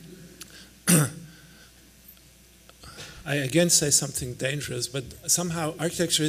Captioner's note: clears throat